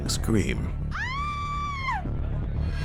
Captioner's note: woman screaming